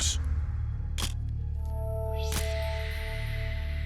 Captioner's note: camera shutter click